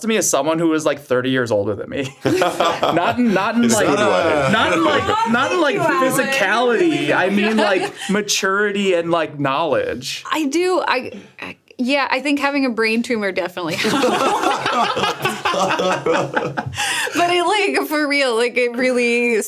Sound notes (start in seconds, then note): 2.1 laughs; 13.7 group laughs